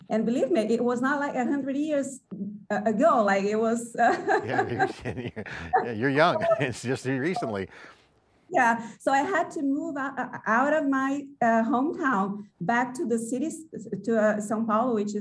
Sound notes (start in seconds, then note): 4.1 laughing